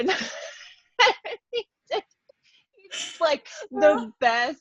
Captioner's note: laughs